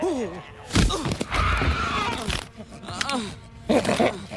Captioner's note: grunting; snapping; shrieking; growling